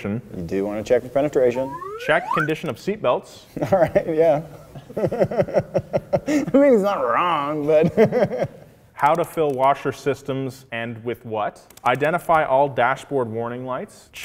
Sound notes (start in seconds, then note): 4.9 giggling; 6.6 laughing